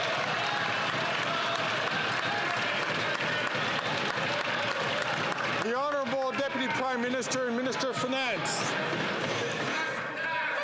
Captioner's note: some Applause